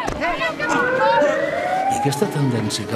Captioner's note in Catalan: policia: sirena